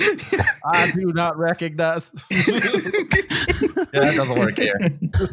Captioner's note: laughter; crazy voice; laughter